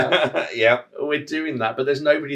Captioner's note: laugh